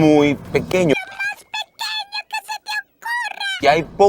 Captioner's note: Sponge Bob talking